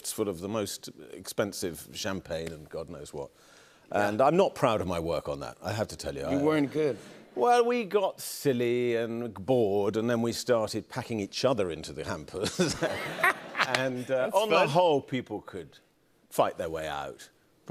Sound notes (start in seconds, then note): 12.4 laughter